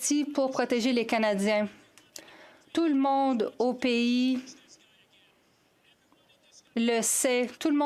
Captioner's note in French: voix de l'interprète